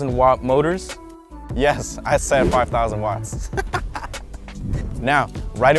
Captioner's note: chuckles